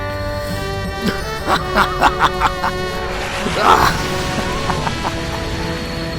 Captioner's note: laughter